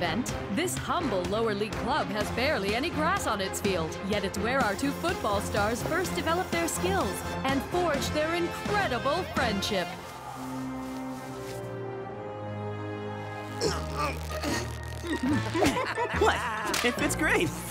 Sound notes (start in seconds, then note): 13.6 grunting; 13.7 laughing